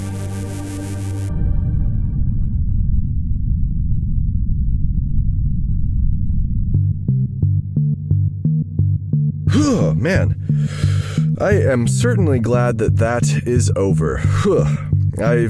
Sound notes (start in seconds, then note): 5.1 shivers again